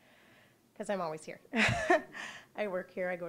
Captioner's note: laughing